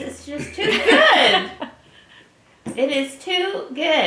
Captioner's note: laugh